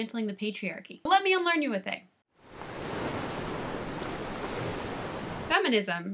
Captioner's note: waves crashing